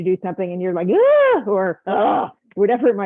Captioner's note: screams; groans